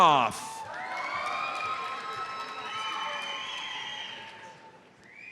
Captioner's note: audience cheers and applauds